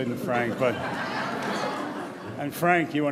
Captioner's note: audience laughs